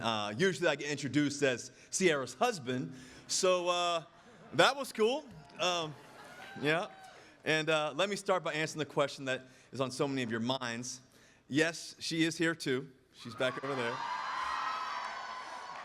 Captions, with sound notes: Usually I get introduced as Ciara's husband, so that was cool. (audience laughing) Yeah, and let me start by answering the question that is on so many of your minds: yes, she is here, too. (audience cheering) She's back over there.